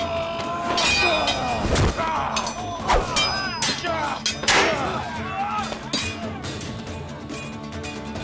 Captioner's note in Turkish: Dövüş sesleri; Müzik - Hareketli